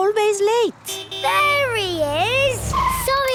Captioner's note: honking